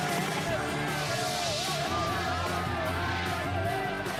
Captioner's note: crowd cheering